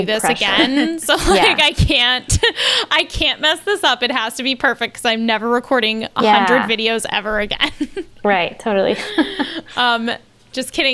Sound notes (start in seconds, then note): 0.3 they laugh; 8.9 they laugh